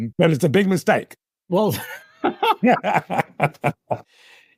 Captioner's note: laugh